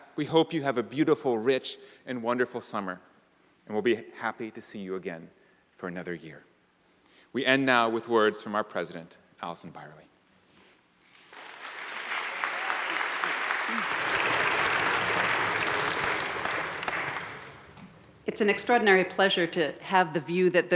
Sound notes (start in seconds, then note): 11.2 crowd applauding